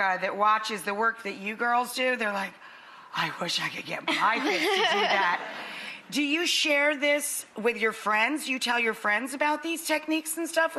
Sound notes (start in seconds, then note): 4.1 laughter